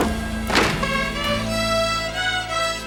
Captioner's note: door slams; rudimentary string music continues